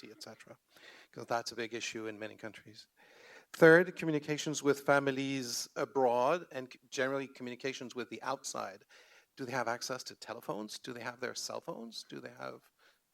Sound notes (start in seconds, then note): none